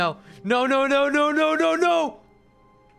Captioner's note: doing a character voice